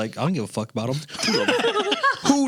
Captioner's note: laughing